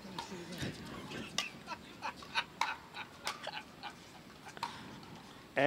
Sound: laughs in the background

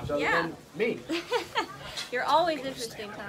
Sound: laugh

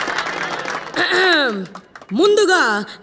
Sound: applauding

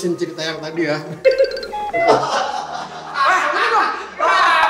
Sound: ding

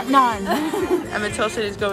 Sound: laughs

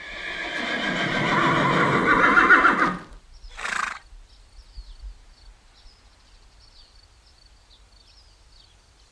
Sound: cows mooing; horse whinnying

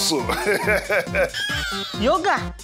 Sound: laughing

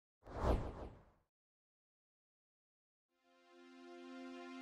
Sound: logo whooshing

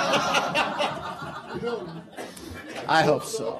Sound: laughter

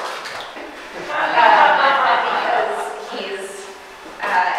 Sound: woman in audience laughing

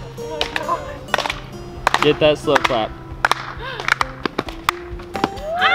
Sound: laughs; slow clapping; crowd shouting and applauding

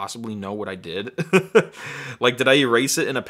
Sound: laughter

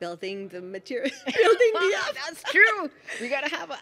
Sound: laughs

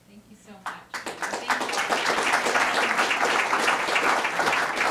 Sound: audience applauding

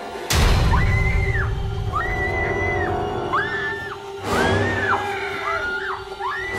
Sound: ominous music; Ryder screams; door slams

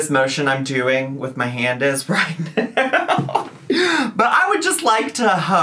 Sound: laughs

